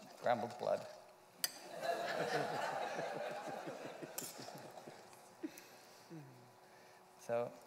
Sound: laughter

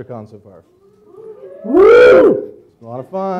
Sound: audience cheers quietly

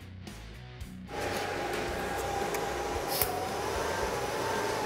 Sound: machine whirring

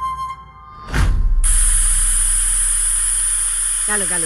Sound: cooker whistles

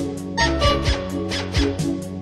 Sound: honk-honk

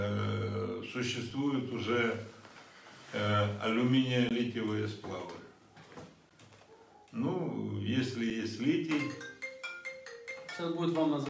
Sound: phone rings

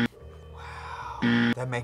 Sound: buzzer rings

